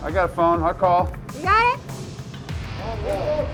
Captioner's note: voiceover; voiceover